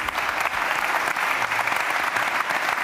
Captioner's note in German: Applaus